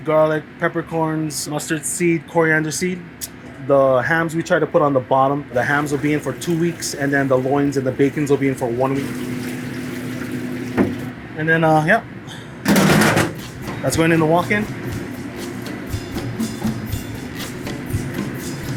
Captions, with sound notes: garlic, peppercorns, mustard seed, coriander seed. The hams we try to put on the bottom, the hams will be in for two-weeks, and then the loins and the bacons will be in for one week. And then, yeah, [lid clatters] that's going in the walk-in. [mellow music]